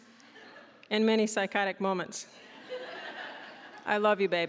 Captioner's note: audience laughing